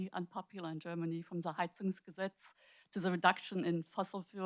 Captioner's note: speaks foreign language